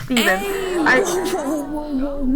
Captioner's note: audience gasps